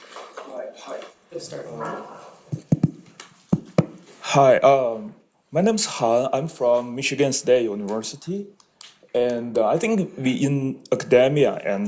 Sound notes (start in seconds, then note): 2.4 microphone thumping